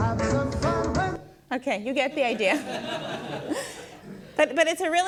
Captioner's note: laughs with audience